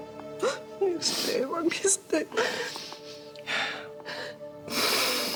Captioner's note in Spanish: sollozos